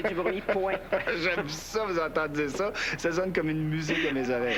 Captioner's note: Rire